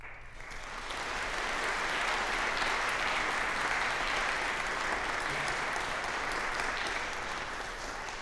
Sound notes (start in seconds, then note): 0.0 applause